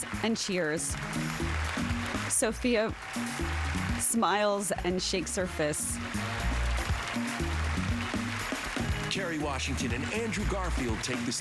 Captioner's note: applause